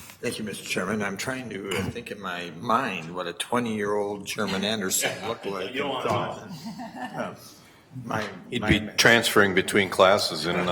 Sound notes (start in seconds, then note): 6.4 chuckling